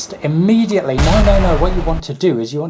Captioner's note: bursting noise